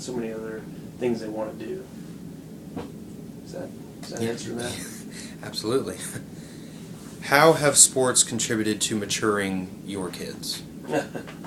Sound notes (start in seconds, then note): 4.6 laughs; 10.8 chuckles